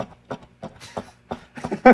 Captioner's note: laughter